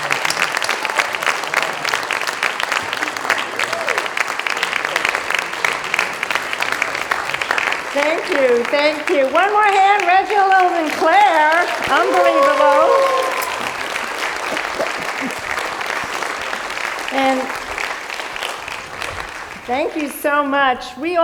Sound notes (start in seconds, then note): 13.2 applause continues